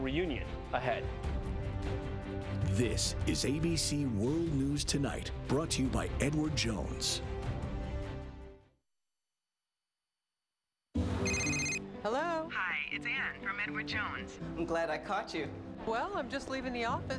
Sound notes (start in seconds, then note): 11.2 phone ring